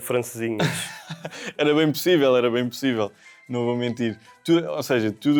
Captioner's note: laughs